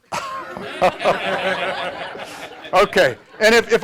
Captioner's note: laughter